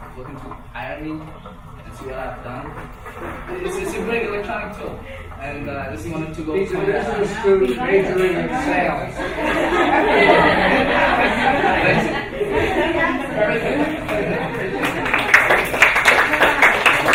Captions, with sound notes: to hire me and see what I've done. It's a great electronic tool, and just wanted to-- - He's a business student, majoring in sales. (laughing) (clapping)